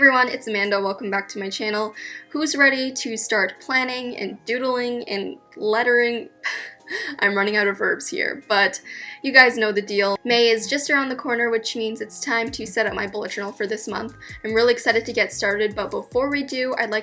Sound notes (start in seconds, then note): 6.5 laughs